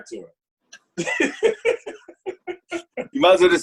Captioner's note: laughter